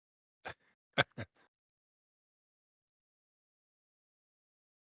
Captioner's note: laughter